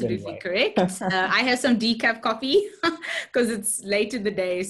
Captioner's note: laughs